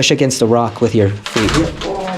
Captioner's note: wood cracking